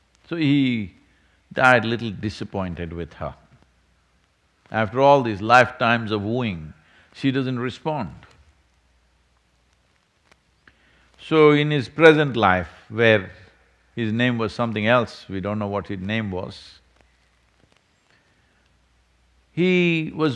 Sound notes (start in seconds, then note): none